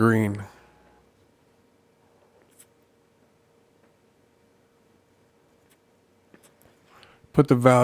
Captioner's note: silence